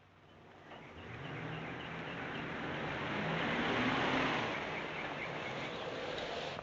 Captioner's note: vehicle droning; birds chirping